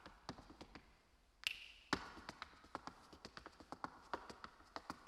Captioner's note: fingers snapping